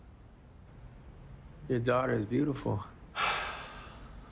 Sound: sighs

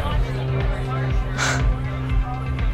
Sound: exhales

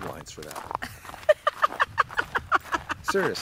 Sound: Chelsea laughs

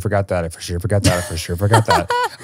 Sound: laughs

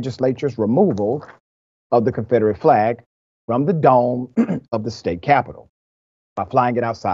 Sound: cough

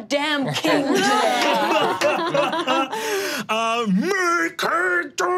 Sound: all laughing

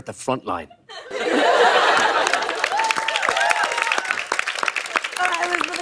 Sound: cheers and applause

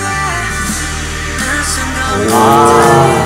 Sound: swoosh

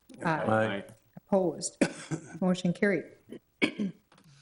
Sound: clearing voice

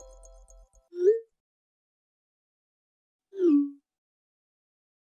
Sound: messages chiming; text message whooping

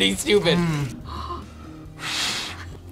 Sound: gasps; exhales

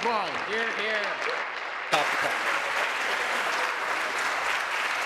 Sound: applause

